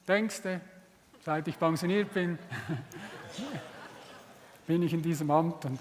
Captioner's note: laughter in the audience